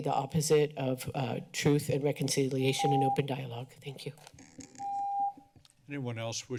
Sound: beeping

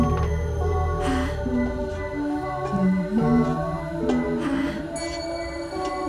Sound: Lottie panting softly

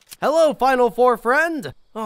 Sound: gun clicks

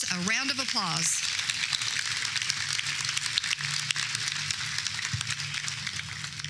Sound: applause

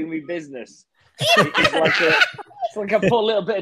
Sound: group laughing

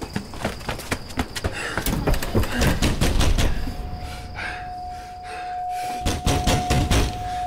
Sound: footsteps thudding; banging door; panting

